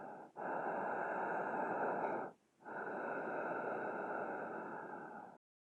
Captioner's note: murderer breathes deeply